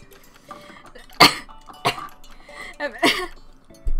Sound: coughs

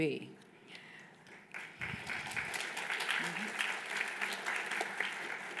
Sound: applause

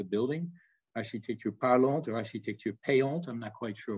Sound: speaks in French

